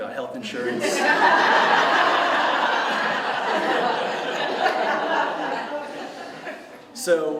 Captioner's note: laughter